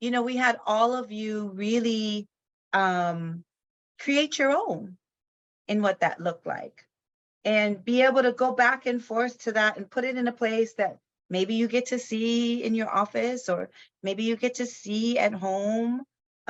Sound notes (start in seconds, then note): none